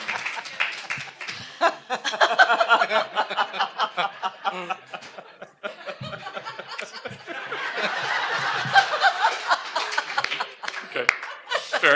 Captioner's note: applause